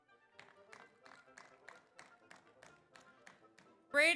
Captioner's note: audience applauds